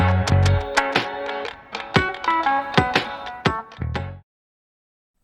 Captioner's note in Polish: Aplauz